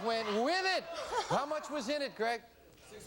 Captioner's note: laughs